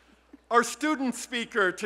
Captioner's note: whispering